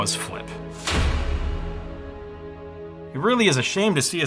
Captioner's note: metal slamming